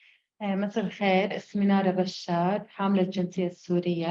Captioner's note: speaking arabic